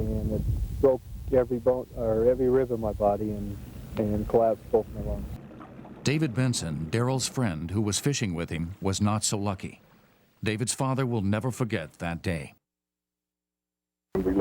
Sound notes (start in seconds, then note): 6.2 voiceover